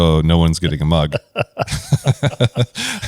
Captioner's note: laughs